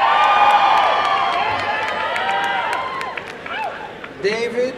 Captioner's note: applause and cheering